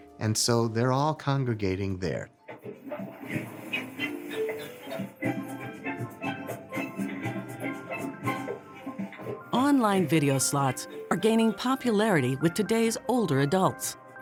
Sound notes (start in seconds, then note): 2.7 slot game chimes; 6.6 upbeat tropical music